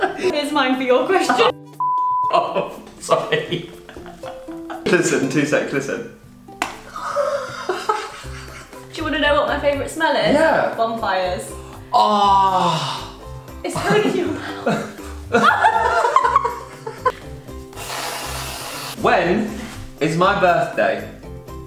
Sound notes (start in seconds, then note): 6.9 both laugh; 15.2 both laugh